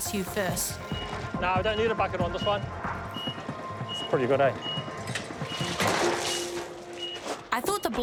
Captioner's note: beeping